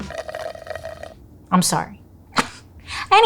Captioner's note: straw crackles